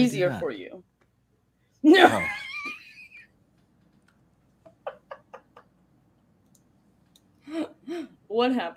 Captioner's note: laughter